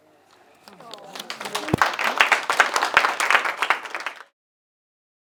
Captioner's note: applause